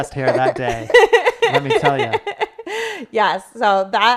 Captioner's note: laughing